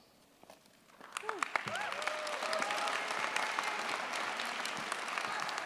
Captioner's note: cheers, applause